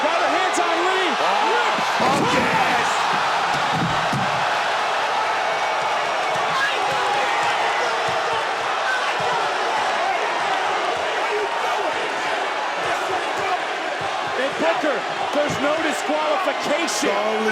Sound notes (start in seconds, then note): 2.5 booth clatters; 2.5 crowd cheers